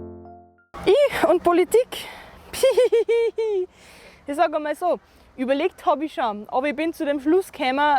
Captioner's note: giggling